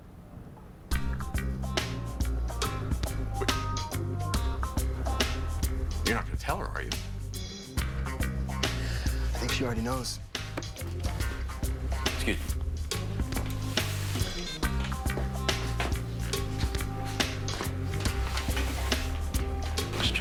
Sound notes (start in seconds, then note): 14.2 phone beeps on; 18.3 whispering